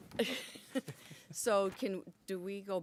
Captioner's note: board members giggling